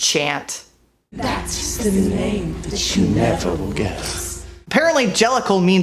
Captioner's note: chants